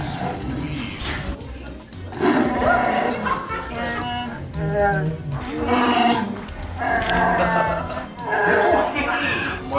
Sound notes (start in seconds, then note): 2.1 Chewbacca roar; 4.5 Chewbacca roar